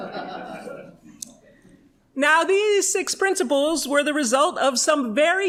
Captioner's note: laughter